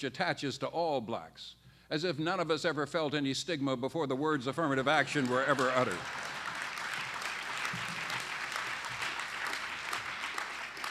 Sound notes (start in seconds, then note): 6.7 applause